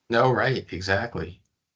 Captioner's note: laughing